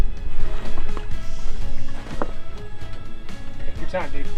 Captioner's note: water splashes